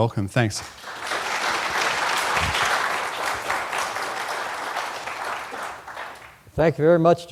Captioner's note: applause